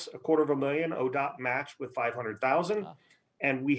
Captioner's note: murmurs